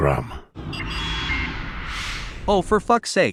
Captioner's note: whoosh